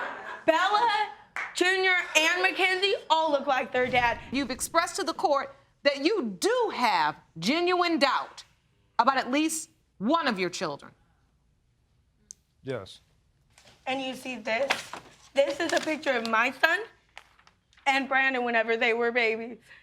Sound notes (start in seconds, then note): 13.5 paper rustling